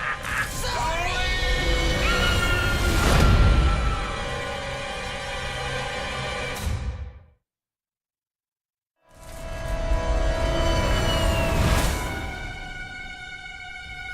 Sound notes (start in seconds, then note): 0.0 continues laughing; 1.9 screaming